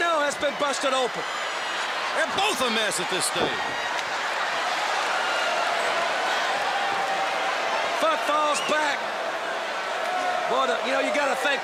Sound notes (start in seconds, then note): 4.2 crowd cheering